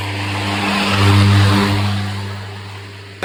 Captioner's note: lawnmower Sounds